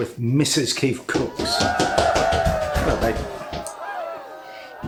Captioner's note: cheering